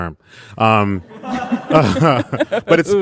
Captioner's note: audience laughing